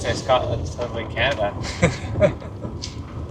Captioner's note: laugh